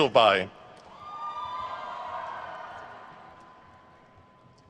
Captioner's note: crowd cheers